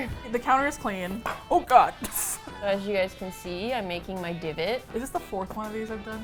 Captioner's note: quietly